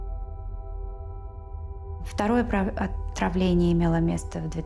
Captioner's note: speaking Russian